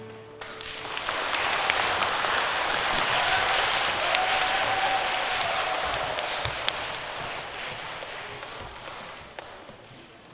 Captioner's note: applause